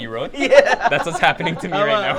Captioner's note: laughs